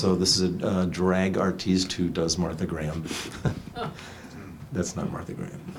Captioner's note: laughs